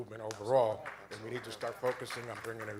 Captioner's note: applause